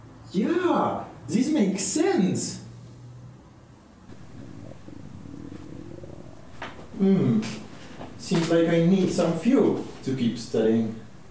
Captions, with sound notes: ..Yeah, this makes sense.. [stomach growling] Mmmhh.. ..seems like I need some fuel to keep studing..